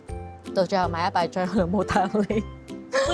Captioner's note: laughs